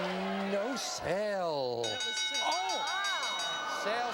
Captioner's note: bell clangs